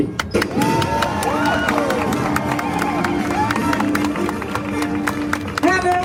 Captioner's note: upbeat music; crowd cheering